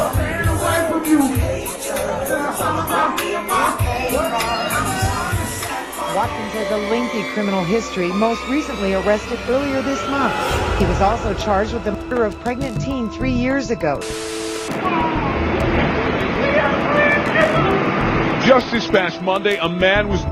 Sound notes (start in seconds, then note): 14.0 static buzzing; 16.6 women crying